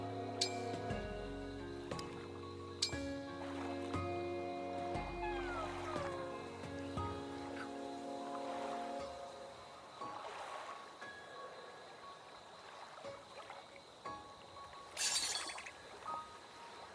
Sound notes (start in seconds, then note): 5.0 happy Noises